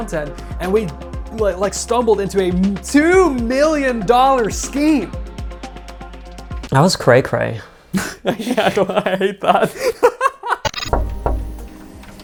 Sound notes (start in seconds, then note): 7.9 laughs; 7.9 chuckles